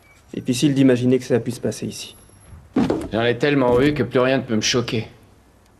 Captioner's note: none